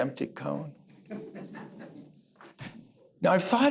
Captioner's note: laughter